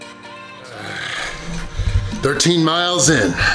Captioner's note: grunts